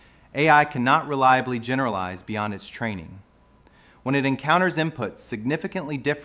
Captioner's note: thoughtful